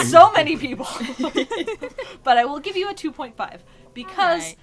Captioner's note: laughs